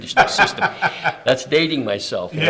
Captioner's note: laughs